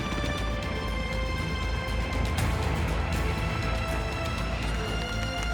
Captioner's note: helicopter blades whir; intense music